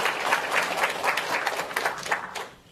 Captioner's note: applause